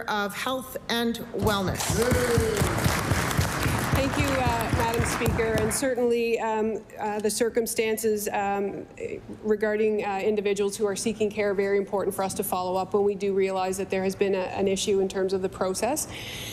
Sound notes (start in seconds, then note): 0.0 applause; 5.5 cheering & Applause